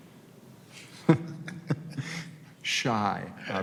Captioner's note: laughs